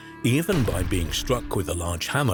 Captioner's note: hammer banging